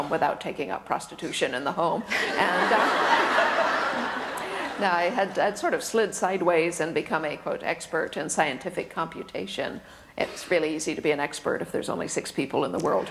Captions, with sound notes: without taking up prostitution in the home. (audience laughter) I had sort of slid sideways, and become a quote "expert" in scientific computation, it's really easy to be an expert if there's only six people in the world